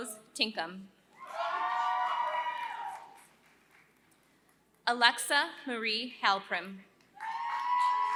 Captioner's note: applause